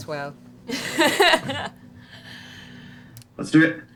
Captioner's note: Marisha laughs